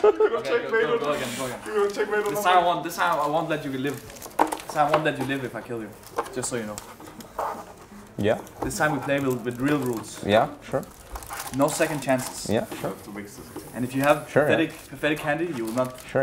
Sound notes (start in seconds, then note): 0.0 laughing; 7.3 smug